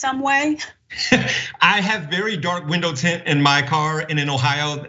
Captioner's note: laugh